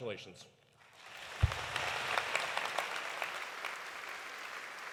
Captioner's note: audience applauding